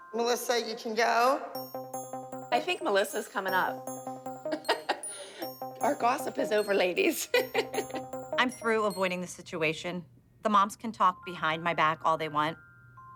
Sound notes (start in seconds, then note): 4.4 chuckles; 7.1 chuckles